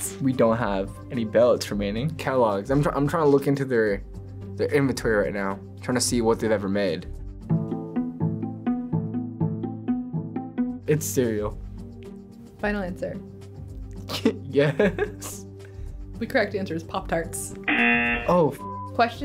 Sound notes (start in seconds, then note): 7.4 mysterious music; 14.6 chucking